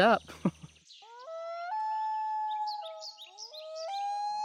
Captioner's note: chuckles; loon warbling